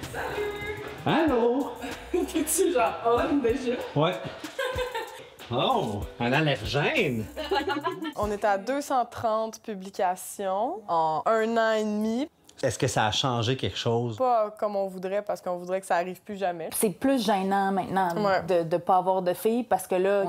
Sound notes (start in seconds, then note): 7.3 laughing